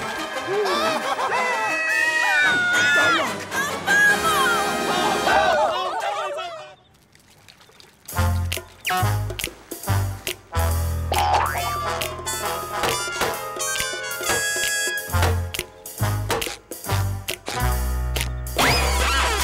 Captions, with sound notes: [screaming] - Don't look. - A bubble! [screaming] [snapping] [banging] [snapping]